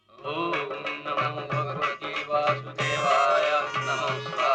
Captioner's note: chanting mantras